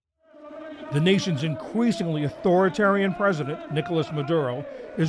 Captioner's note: voice-over